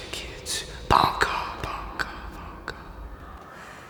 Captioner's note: echo